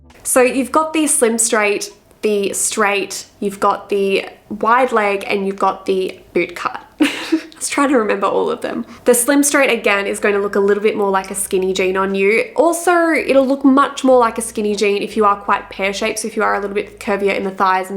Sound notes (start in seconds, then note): 0.0 bright upbeat music; 6.9 laughs